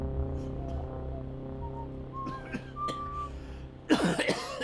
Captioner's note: Dom coughing